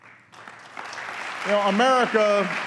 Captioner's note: applause